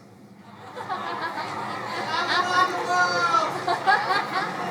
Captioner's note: crowd laughing